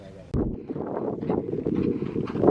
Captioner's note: wind blowing